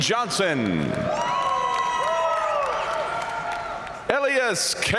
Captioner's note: audience cheering and applauding